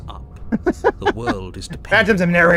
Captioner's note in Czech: smích